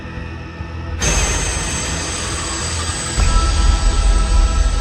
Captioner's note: jump scare; eerie music, crickets